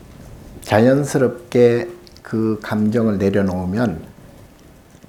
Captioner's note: speaking Korean